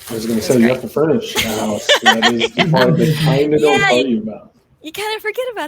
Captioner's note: laughing drowns out speaker